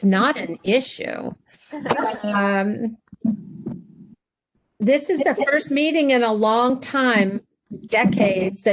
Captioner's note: laughter